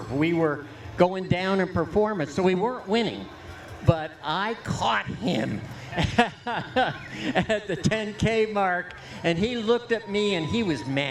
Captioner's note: laughter